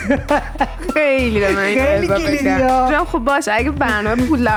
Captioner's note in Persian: خنده